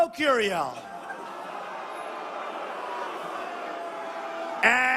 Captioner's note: crowd boo